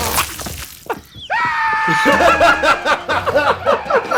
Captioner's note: shrieking